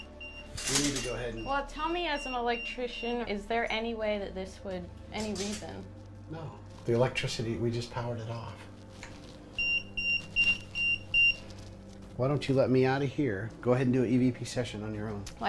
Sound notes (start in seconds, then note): 0.0 EMF beeping; 9.6 EMF beeping